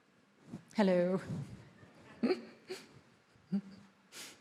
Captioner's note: laughs